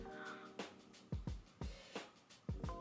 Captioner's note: continued disappointment in korean